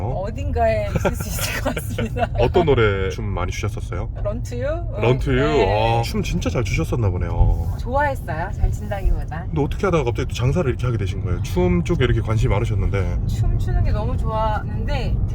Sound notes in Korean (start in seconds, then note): 5.0 감탄